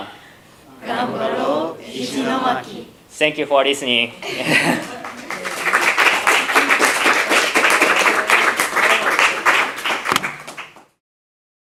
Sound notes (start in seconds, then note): 4.2 laughter; 4.8 applause